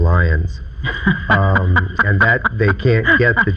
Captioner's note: laughing